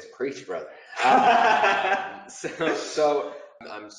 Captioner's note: laughing